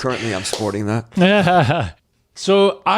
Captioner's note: laughs